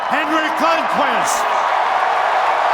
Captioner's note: cheers and applause